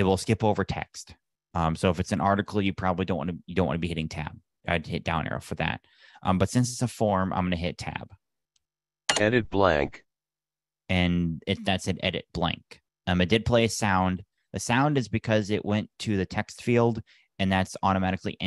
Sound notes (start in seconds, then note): 7.5 sound of key being pressed